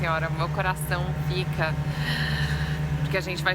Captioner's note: sighing